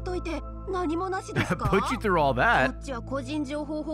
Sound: laughs

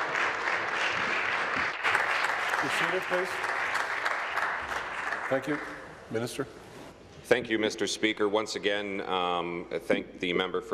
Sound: applause

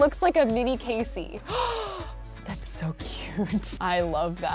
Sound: gasping

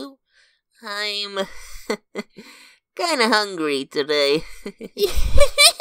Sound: chuckles; giggles approvingly

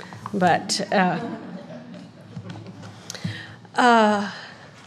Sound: audience chuckling

